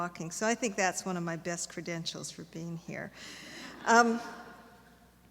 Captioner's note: laughter